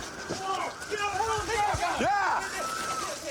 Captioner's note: officers yelling